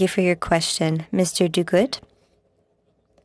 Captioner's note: speaking in French